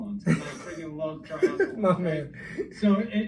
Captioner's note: laughing